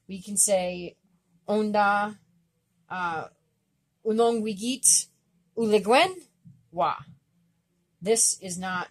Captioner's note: speaking Abenaki